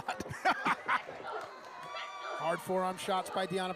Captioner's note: laughter